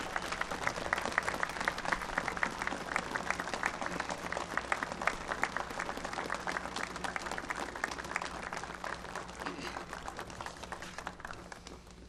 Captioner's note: applause